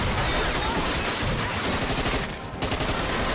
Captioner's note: gunfire continues, glass shatters